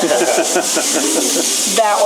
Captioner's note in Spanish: risas